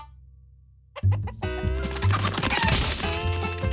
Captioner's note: chickens clucking; chickens squawk